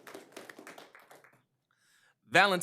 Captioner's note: applause